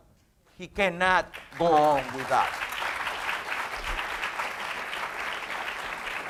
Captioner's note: audience applauds